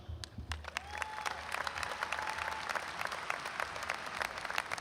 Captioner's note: audience applauds and cheers